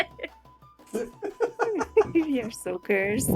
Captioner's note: laughter